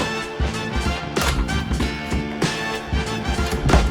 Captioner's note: 80s chase music; running footsteps; 80s chase music; door opening; 80s chase music; door close